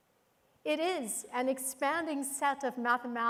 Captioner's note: none